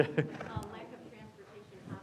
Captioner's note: audience laughing